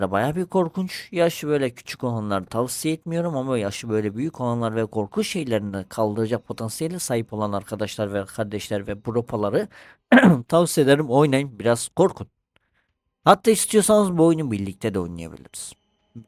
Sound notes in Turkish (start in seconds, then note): 10.1 boğazını temizler